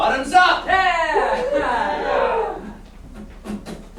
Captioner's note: cheers